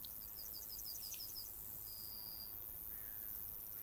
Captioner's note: insects chirping